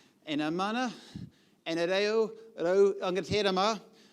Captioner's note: foreign language